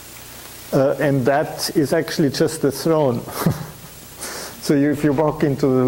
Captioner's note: chuckles